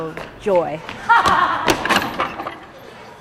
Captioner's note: laughter